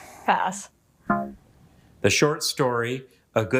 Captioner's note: womp chimes